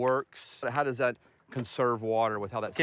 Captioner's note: tractor running